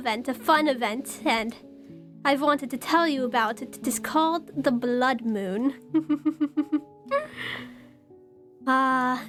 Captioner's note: chuckles